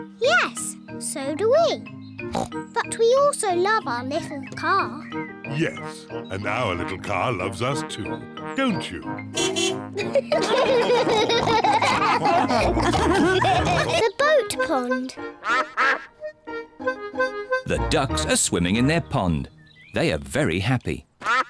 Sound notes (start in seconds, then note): 2.3 snorts; 9.3 car horn beeps; 9.9 all laugh; 15.4 duck quacks; 21.2 ducks quack